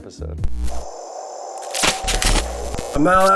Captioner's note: electricity crackling